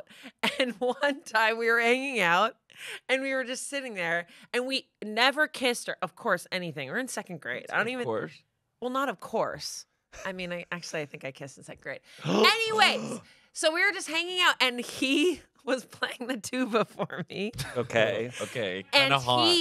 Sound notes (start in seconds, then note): 12.1 gasp; 16.8 laughs